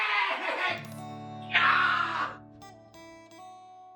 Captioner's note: screams in pain